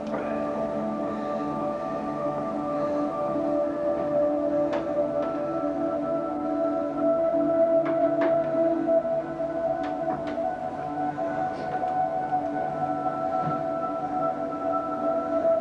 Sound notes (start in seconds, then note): 1.0 man breathes deeply